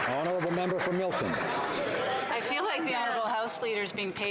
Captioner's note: some Applause